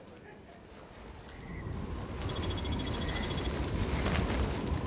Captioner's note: wind howling